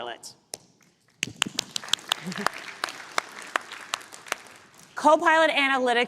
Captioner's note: applause